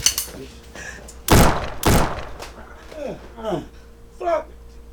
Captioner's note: gun shooting